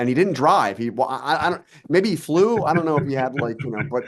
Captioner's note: laughing